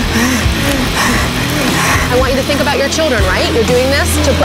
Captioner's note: heavy breathing